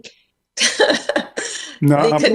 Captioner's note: laughs